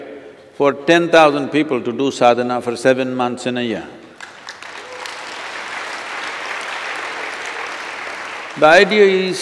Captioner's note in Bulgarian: аплодисменти